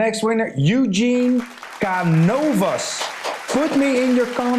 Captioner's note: recorded hands clapping